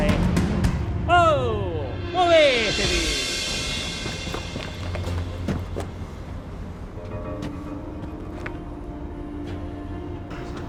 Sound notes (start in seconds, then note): 1.3 dramatic music; 3.2 footsteps crunching; 6.3 dramatic music